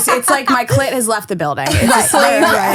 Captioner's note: laughing